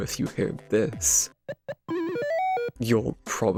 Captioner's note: atari donkey kong jump sound